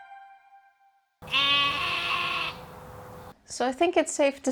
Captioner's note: sheep noises